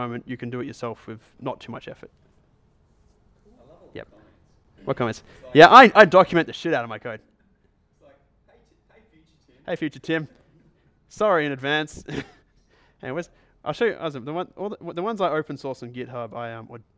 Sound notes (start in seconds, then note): 3.8 voiceover; 8.2 voiceover; 12.0 chuckles